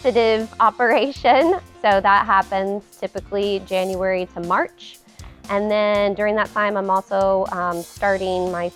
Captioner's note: laughs